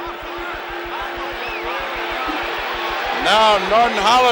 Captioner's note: bell sounds